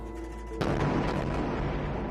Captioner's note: explosion